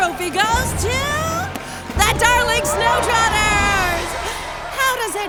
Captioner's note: crowd cheering